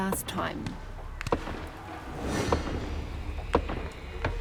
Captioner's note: gunshots echo